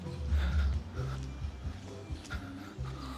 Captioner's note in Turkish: nefes nefese kalma